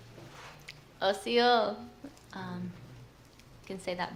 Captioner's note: non-english speech